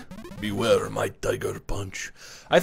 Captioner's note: gravelly voice; foreign accent; normal voice